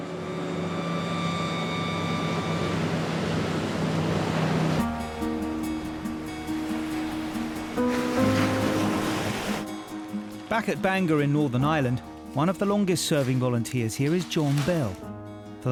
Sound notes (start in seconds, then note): 0.1 engine hums; 5.0 light music; 8.1 waves crashing